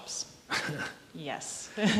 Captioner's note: chuckles